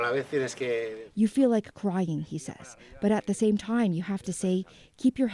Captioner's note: speaking alternate language